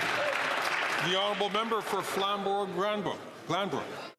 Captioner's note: applause